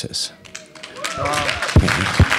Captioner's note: applause